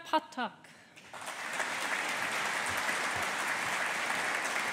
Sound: audience applauding

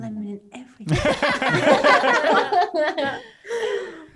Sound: all laugh

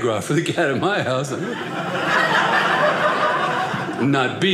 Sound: audience laughing

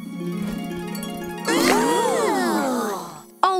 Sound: all oohing

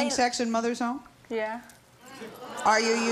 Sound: audience exclaims

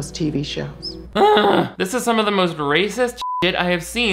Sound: beep

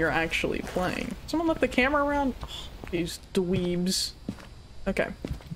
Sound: scoffs

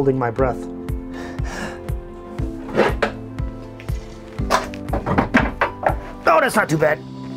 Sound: takes deep breath

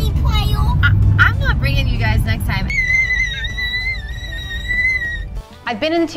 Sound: kid screams

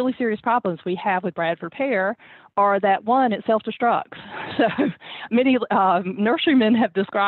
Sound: laugh

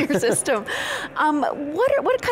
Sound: laughter

